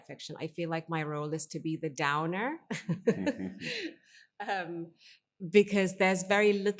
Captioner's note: chuckles